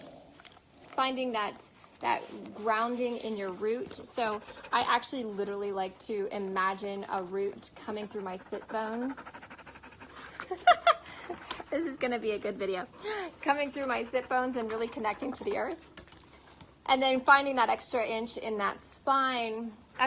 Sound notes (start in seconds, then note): 10.8 laughs